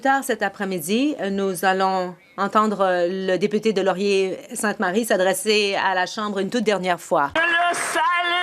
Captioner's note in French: voix de l'interprète